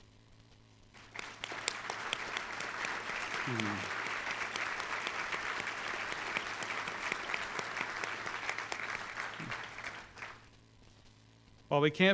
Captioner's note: applause